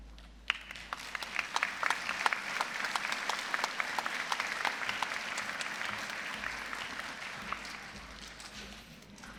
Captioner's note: applause